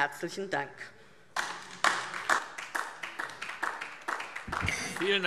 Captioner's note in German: Beifall DIE LINKE und vereinzelt SPD